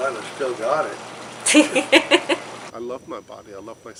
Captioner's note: laughter